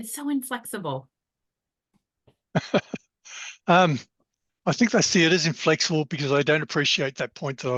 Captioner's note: laughs